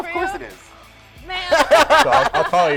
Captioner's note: all laugh